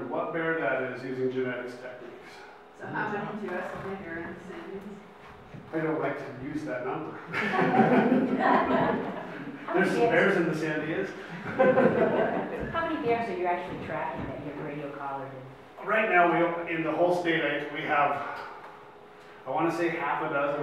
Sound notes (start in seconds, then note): 7.2 laughs; 7.2 audience laughs